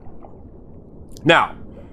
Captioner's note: water bubbling